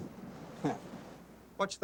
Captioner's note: Shane chuckling